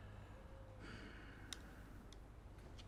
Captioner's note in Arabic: تنهدات